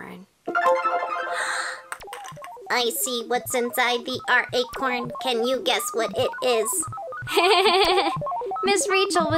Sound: robot voice; laughter

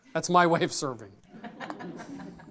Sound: audience chuckles

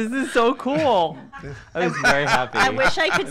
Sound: laughing

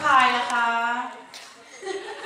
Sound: laught

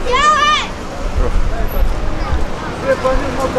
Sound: child yells

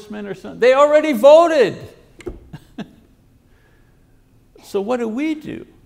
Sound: laughs

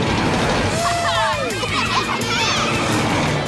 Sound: cheering

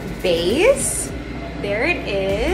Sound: ice cream maker churns

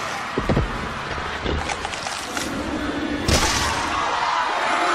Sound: crunching noises

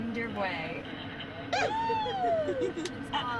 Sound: cheers

